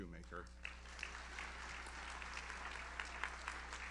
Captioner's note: audience applauds